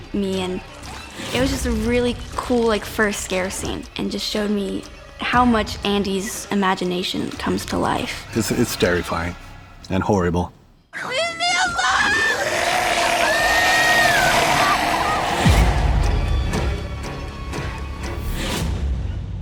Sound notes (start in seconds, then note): 11.0 lilly screams; 12.1 creature roars